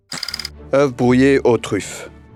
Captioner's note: slide rolling